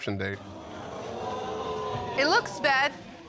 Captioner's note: audience exclaiming